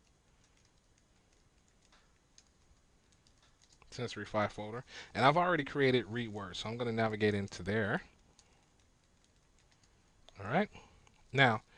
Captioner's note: silence